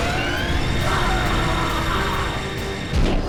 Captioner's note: gol screams